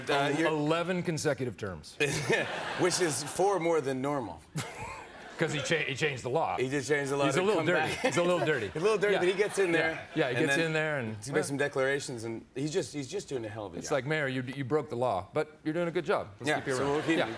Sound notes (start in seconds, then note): 7.8 laughs